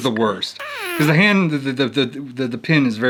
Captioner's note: whoopie cushion sound effect